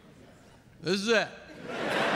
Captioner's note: laughter